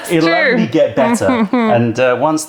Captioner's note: laughter